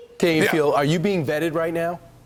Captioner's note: laughter